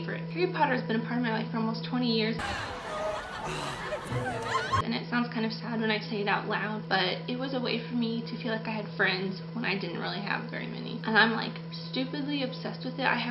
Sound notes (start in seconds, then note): 2.4 lively music; 2.4 laughing